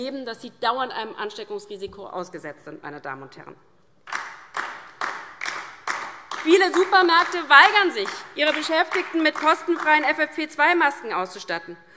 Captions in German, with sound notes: dass sie dauernd einem Ansteckungsrisiko ausgesetzt sind. [Beifall DIE LINKE] Viele Supermärkte weigern sich, ihre Beschäftigten mit kostenfreien FFP2-Masken auszustatten.